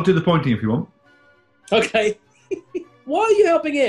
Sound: giggling

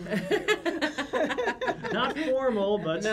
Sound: laughs

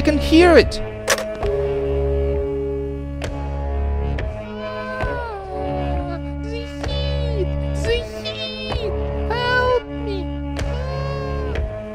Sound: screams

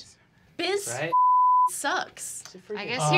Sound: beep

